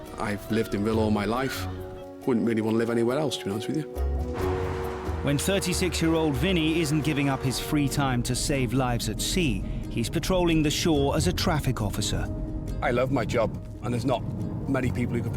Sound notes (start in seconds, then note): 4.2 car engines revving